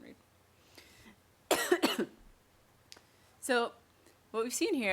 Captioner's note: coughs